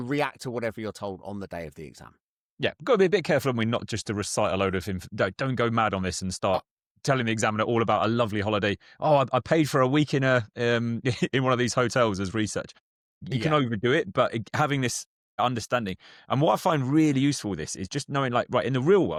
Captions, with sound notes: react to whatever you're told on the day of the exam. Yeah, gotta be a bit careful and we're not just to recite a load of inf- d- don't go mad on this and start telling the examiner all about a lovely holiday. "Oh, I p- I paid for a week in a, um, (laughs) in one of these hotels as research." Yeah. You cannot overdo it, but i- having this understanding. And what I find really useful with this is just knowing, like, right, in the real